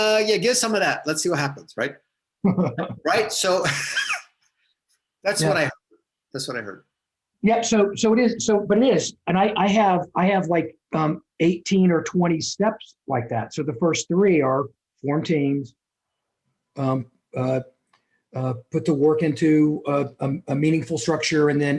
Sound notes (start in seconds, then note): 2.4 laughs